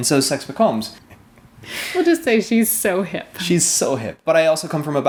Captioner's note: both laugh